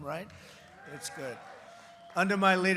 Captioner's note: applause